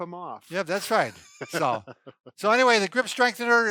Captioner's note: laughing